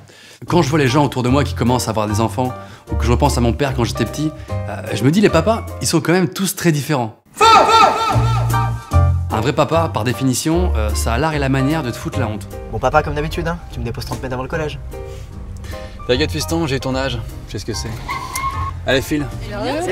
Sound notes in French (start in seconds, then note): 17.8 Bruit de dérapage